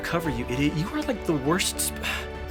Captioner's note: sigh